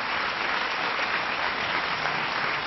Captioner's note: applause